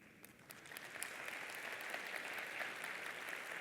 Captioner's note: applause